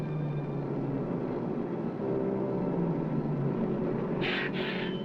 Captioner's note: bus engine humming